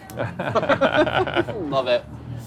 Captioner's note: guys laughing